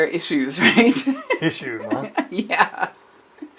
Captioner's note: laughs; chuckles